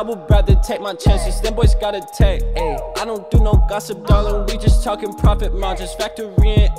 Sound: haha

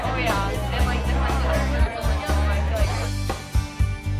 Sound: chattering

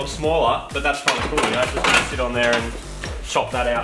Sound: metallic clattering and clashing

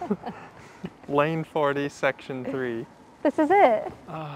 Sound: sigh

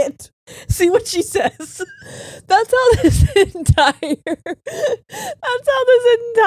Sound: laughing

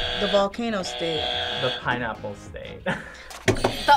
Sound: buzzer rings; laughs; buzzer rings

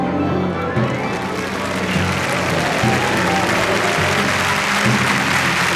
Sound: clapping

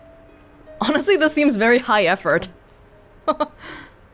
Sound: chuckles

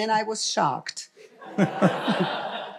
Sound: laughter; foreign language

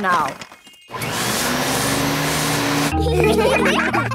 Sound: whirring; all laughing

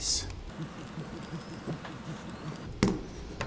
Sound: air hissing

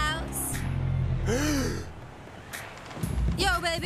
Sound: gasps

